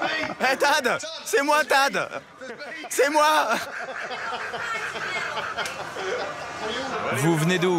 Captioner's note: laughs